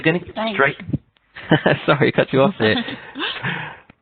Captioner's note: laughs